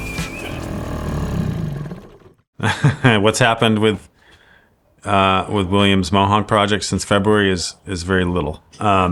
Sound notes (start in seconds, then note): 2.6 laughs